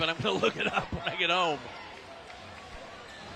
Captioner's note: applause